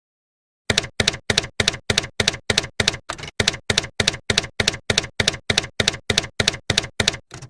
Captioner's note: typewriter keys clacking